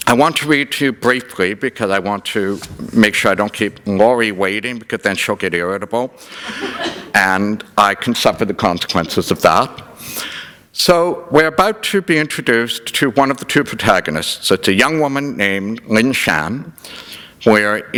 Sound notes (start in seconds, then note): 6.3 laughter